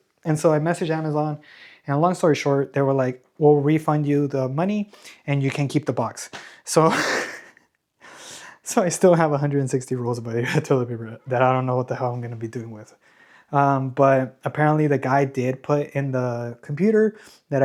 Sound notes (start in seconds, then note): 6.8 laughter